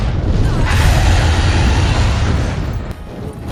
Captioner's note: Rathalos scree